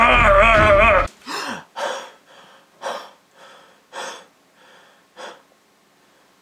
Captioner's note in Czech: bolestný výkřik; hluboké oddychování